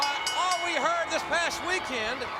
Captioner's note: bell rings